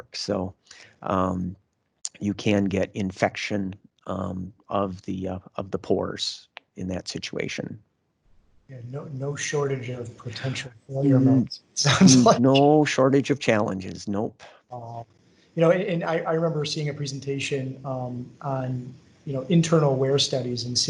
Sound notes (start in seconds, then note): 11.8 laughs